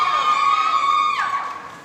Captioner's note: applause